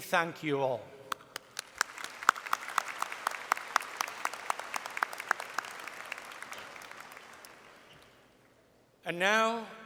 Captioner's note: applause